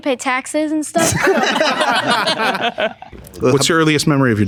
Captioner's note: group laughing